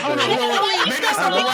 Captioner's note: laughing